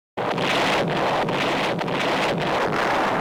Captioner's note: tanks firing